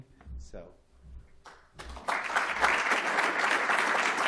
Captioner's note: applause